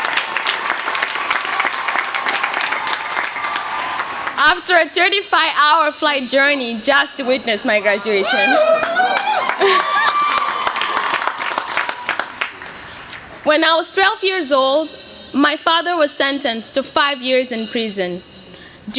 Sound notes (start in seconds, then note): 9.6 cheers and applause